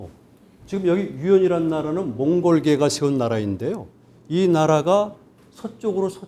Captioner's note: speaking in Korean